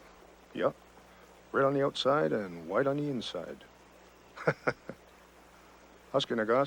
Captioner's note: laughs